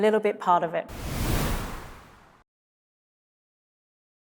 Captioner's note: air whooshes